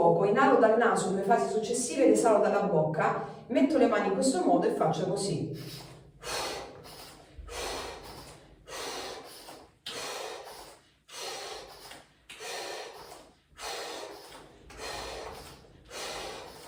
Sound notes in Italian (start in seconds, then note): 7.4 sospiri; 8.6 sbuffare